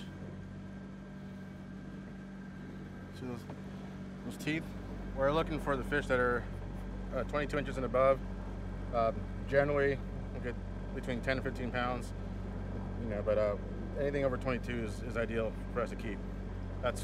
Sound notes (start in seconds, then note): none